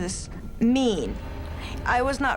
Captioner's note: creepy sigh